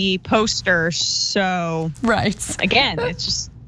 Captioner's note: laugh